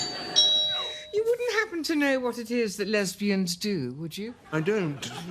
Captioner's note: doorbell